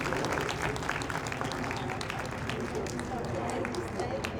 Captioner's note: audience applauds